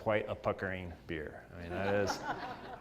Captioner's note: laugh